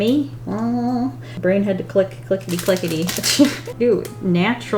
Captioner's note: laughs